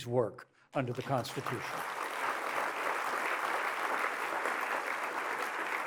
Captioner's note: applause